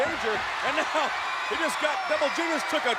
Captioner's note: crowd cheering